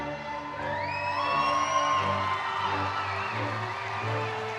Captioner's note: crowd cheering